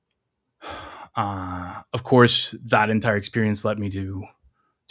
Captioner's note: sighs